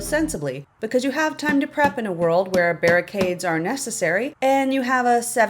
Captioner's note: tap, tap, tap, tap, tap, tap